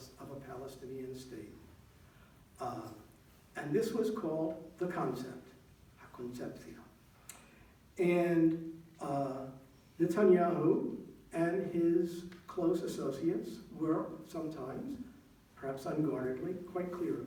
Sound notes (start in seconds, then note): 5.7 non-english speech